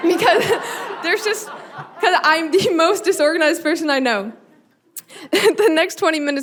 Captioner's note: audience laughing; chuckling